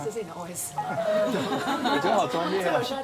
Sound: chuckles

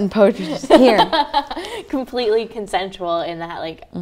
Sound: laughs

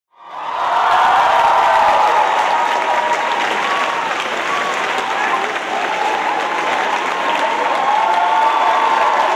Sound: applause

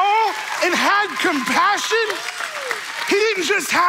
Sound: audience cheering

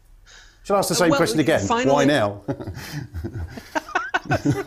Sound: laugh; chuckle

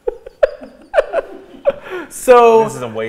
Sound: laughing

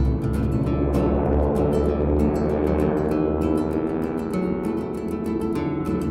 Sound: aircraft engines roaring

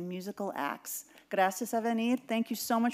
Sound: speaking in Spanish

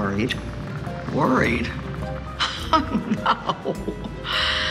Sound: laughs

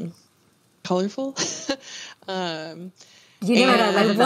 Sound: laughs

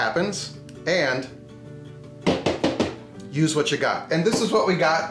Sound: knocking

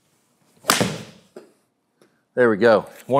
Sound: golf ball cracks

